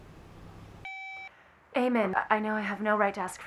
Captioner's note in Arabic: صوت الهاتف